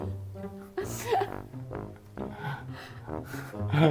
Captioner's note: laughing